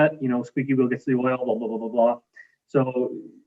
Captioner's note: indistinct conversation